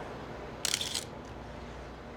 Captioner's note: shutter clicks